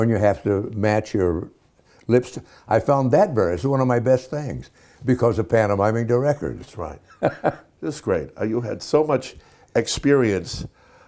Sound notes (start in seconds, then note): 7.0 Dick Van Dyke laughing